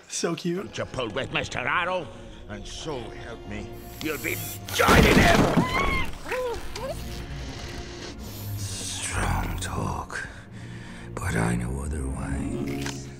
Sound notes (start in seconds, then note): 6.8 chitters